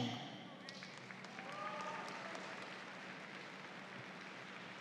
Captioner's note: audience applauds